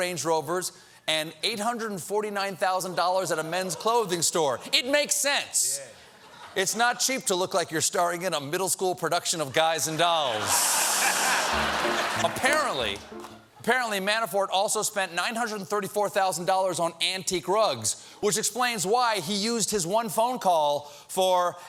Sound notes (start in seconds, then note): 10.2 laughter